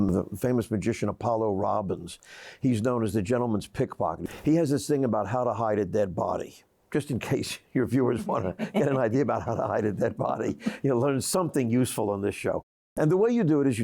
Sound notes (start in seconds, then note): 8.1 chuckles; 8.2 laughs